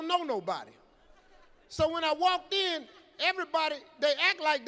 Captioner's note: audience laughing